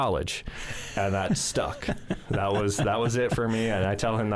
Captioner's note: chuckles